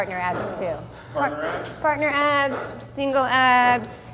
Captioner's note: labored breathing